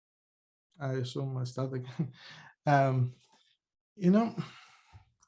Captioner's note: chuckles